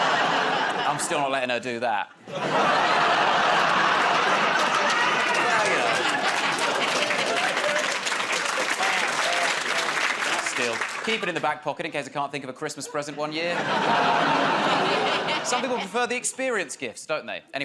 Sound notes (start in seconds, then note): 2.2 laughter; 8.7 applause